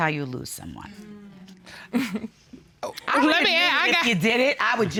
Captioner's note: chuckles